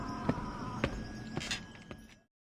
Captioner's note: none